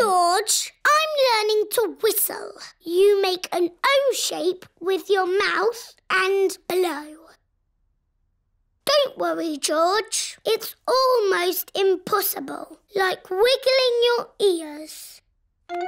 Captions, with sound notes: George, I'm learning to whistle. You make an "O" shape with your mouth and blow. (SILENCE) Don't worry, George. It's almost impossible. Like wiggling your ears.